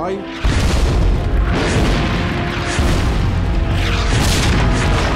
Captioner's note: explosions booming